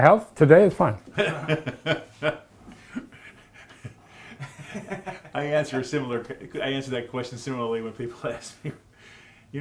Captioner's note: laughs